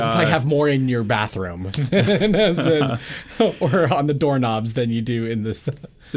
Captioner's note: laughs